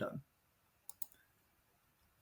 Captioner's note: mouse clicks